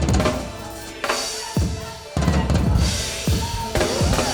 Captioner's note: people chanting